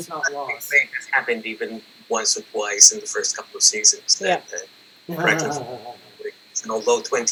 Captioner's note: laughter